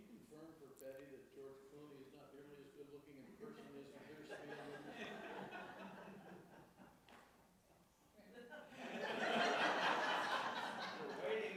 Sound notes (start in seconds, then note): 4.1 audience laughs; 8.7 audience laughs